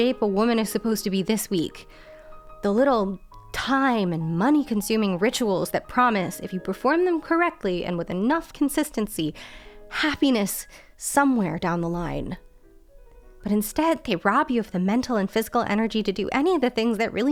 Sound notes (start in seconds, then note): none